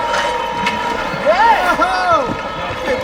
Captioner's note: cheering